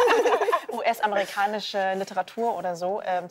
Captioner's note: laughter